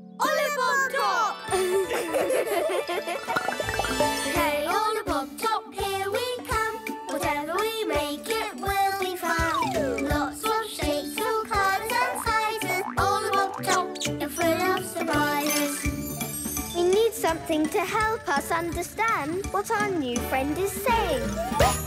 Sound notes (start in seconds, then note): 1.5 laughter; 21.6 bouncy music